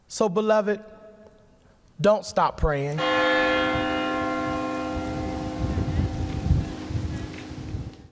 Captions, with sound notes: So beloved, don't stop praying. (church bell rings)